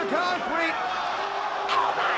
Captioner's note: spectators exclaiming